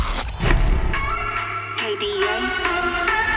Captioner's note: computer app sounds